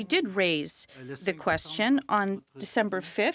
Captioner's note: speaking French